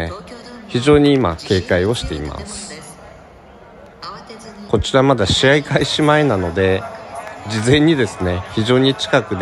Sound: laughs

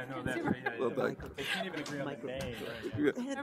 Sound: murmuring

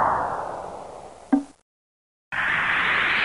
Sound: hot metal hissing; soft plip; hot metal hissing

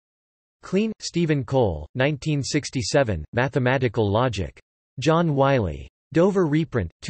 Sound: German

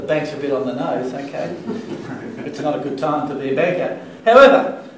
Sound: laughter

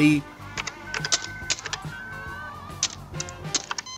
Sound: clicking

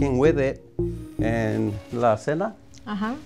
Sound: speaks in foreign language

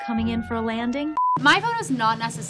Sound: beeping

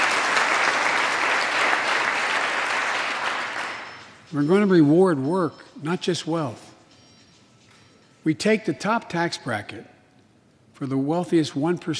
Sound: applause

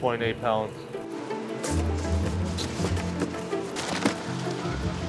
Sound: boxes clattering

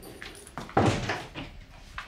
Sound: door closes

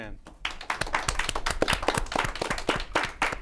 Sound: applause

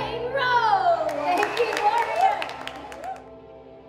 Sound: clapping

